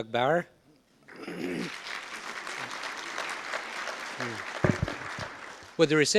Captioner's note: audience applause